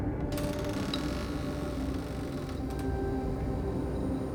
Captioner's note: door creaking; soft gloomy music continues